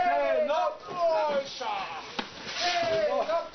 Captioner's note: men shouting instructions